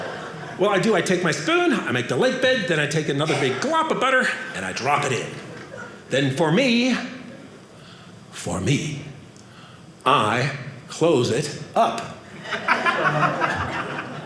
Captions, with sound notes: Well, I do. I take my spoon. I make the lake bed. Then I take another big glob of butter, and I drop it in. Then for me-- for me-- I close it up. (audience laughing)